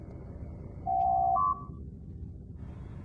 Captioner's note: door Chime